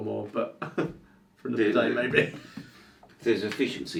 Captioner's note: laughs